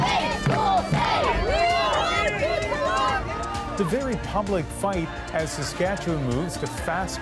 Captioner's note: chanting